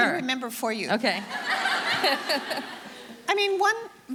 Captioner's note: audience laughing